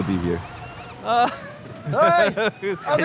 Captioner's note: laughs